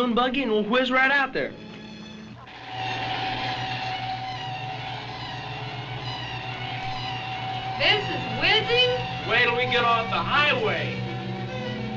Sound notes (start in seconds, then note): 2.7 car engine running; 4.0 dramatic instrumental music